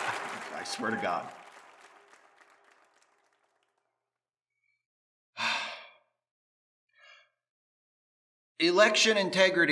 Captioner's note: cheers and applause